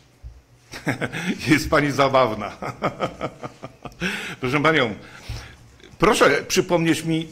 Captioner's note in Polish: śmiech